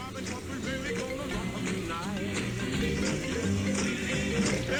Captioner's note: phone rings